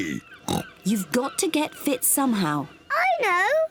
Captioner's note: oinks